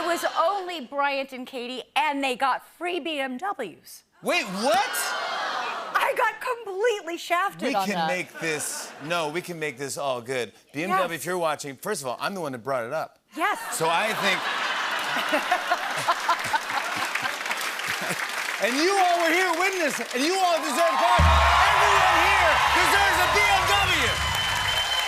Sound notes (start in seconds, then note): 0.0 laughter; 13.6 laughter; 16.6 applause